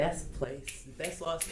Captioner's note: snaps